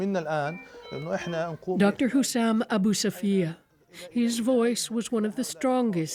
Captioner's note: speaking alternate language